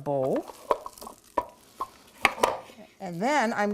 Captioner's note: scrapping mixture